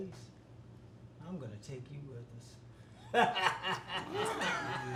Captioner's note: laughing